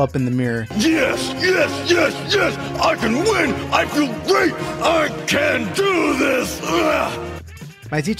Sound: piccologrunts

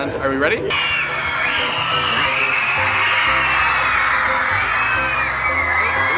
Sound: crowd cheers

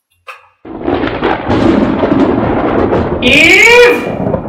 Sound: thunder booming

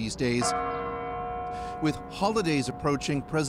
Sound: bells ringing

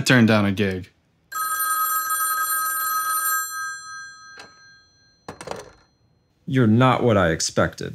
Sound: the phone rings once. the receiver is picked up and hung up

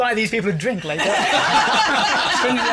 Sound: laughter

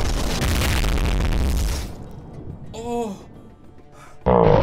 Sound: explosion; meteor crashes

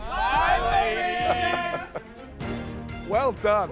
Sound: laughs

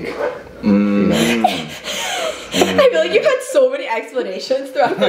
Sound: chuckles

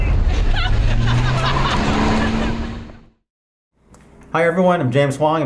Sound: engine revs; laughing

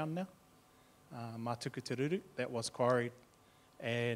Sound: speaking in foreign language

